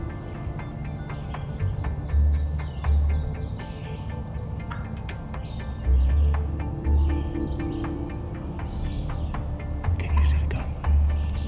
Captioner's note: whispering